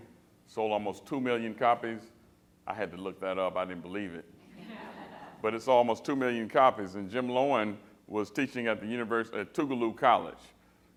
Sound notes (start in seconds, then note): 4.4 laughter